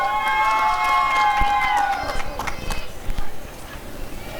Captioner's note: applause and cheering